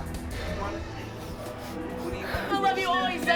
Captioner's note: sniffles; sobbing